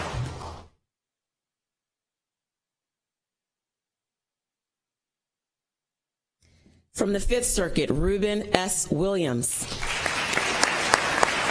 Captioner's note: applause